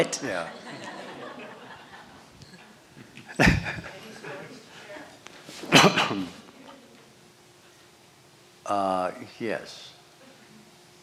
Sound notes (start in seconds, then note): 0.2 laughter; 3.1 laughs